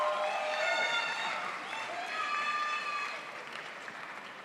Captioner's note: crowd applauds